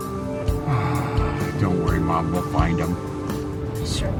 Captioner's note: sighs